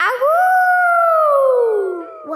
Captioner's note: howling